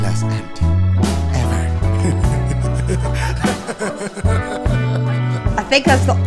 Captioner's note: laughs